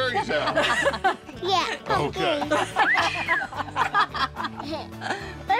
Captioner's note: laughter